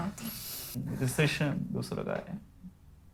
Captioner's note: mumbles to himself